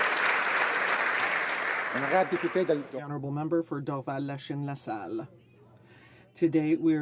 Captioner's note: applause